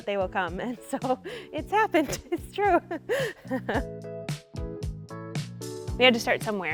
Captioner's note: laughing; upbeat music